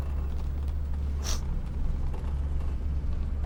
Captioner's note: sniffs